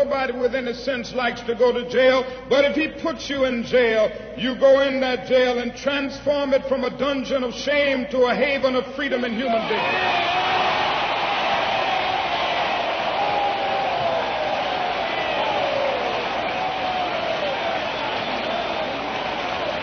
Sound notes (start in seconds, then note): 14.5 applause